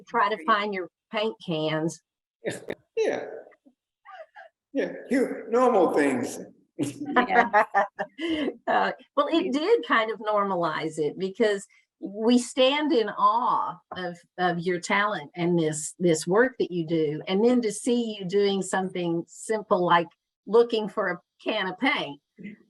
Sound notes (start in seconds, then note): 3.0 laughs; 6.8 laughs